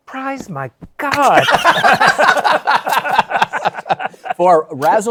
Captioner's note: laughter